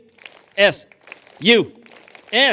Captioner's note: clapping